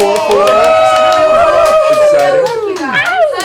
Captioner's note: cheering